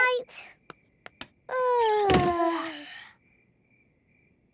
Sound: both yawning; light clicks

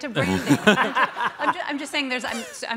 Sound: all laugh

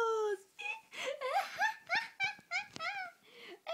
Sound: stupid giggling

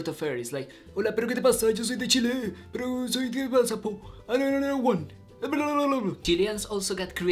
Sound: speaking in foreign language

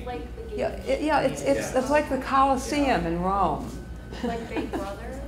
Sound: laughs

